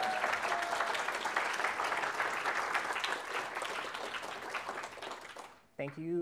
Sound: applause

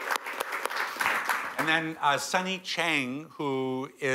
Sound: applause

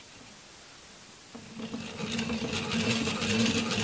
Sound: mechanical turning noise

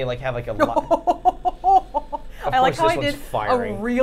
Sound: Safiya laughing

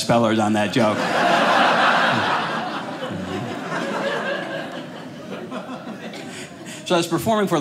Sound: audience laughing

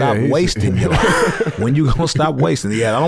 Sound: laugh

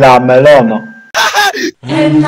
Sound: laugh

